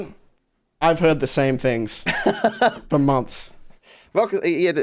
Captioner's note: laughs